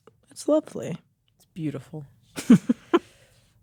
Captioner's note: chuckles